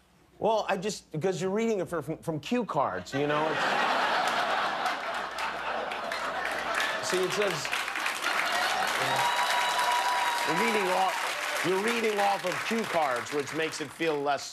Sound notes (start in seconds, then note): 1.3 laughter; 4.7 cheers and applause